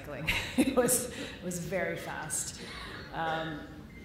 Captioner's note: laughter